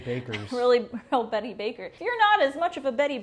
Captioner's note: giggles